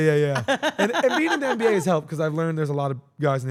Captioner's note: laugh